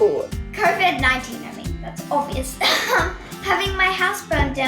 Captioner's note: laughs